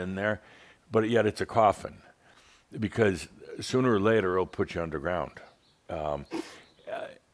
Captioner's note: snorts